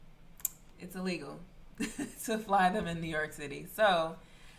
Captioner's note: chuckles